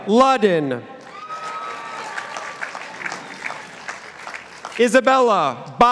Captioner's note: participants applauding